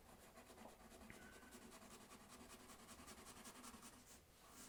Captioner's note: pencil scratching